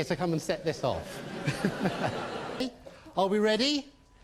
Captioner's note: audience laughs